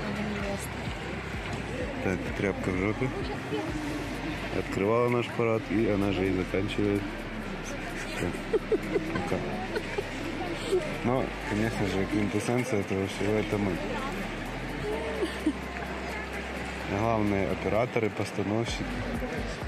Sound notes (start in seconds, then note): 7.9 смех